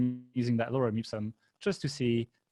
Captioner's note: murmurs